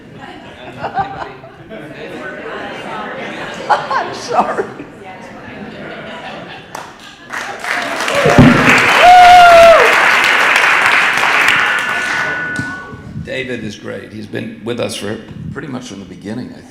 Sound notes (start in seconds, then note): 5.0 audience laughing; 7.2 audience applauding